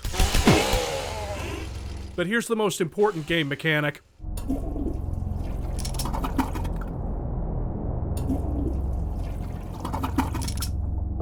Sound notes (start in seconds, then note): 1.3 death groan; 4.4 flush